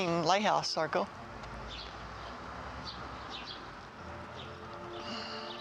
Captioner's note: birds chirping